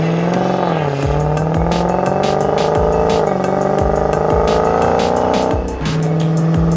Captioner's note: evil thunderous exhaust tones from the depths of the underworld